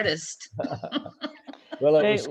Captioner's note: both laughing